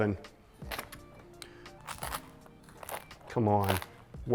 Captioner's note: crust crunching